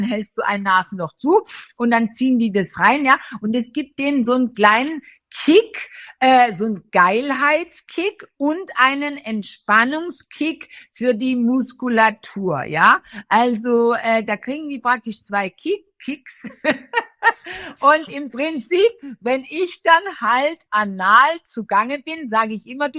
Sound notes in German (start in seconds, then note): 16.4 gelächter